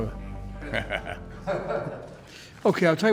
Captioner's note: laughing